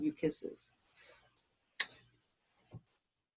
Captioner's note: blows kiss